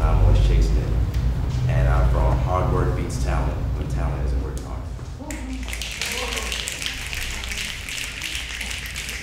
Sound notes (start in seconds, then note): 5.4 snapping